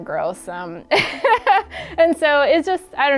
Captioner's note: laughs loudly